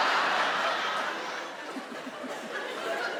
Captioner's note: Sarah chuckles softly